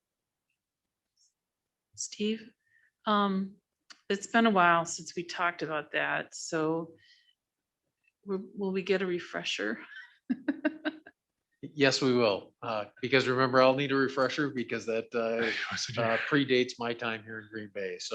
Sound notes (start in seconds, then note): 10.3 laughs